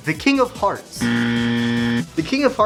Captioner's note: buzzer